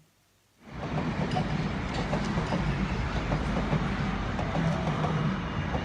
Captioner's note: sound of train going along the track